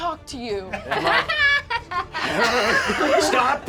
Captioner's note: laughter